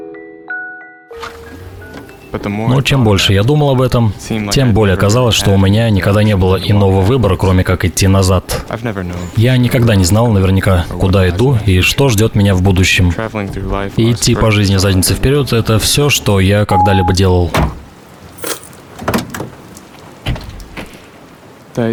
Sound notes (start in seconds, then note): 1.2 rain showering; 16.7 beep sound; 17.5 car door thuds; 18.9 lock sound